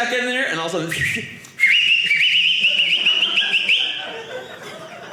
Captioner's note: whistling